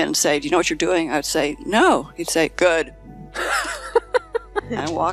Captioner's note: laughing